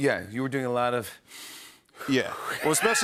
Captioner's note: breathing deeply